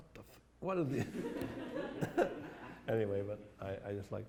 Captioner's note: laughter